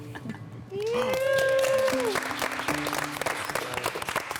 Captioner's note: group applauding